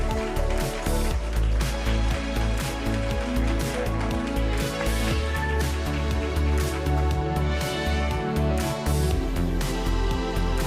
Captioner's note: applause